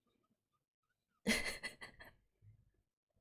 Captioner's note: laughs